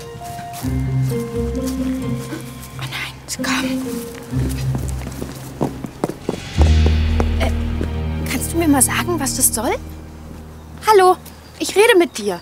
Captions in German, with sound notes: (flüstert:) O nein, sie kommen. (Angespannte Musik) Äh, kannst du mir mal sagen, was das soll? Hallo? Ich rede mit dir.